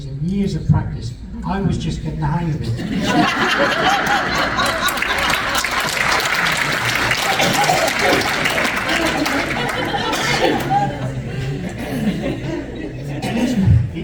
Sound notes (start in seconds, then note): 6.7 audience applause and laughter